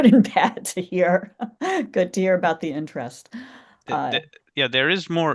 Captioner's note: laughs